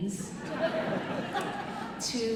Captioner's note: audience chuckling